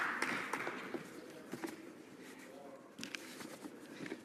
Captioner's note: some Applause